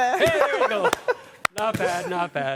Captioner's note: indistinct chatter